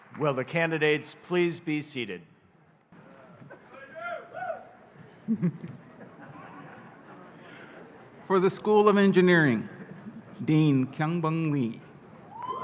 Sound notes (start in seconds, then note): 3.6 audience cheering; 5.0 audience laughing